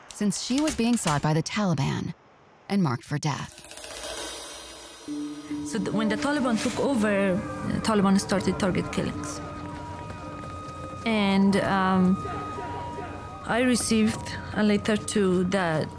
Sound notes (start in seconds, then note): 4.3 cymbals clanging; 9.3 sirens wailing